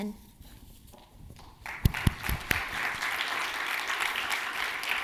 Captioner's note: audience applauding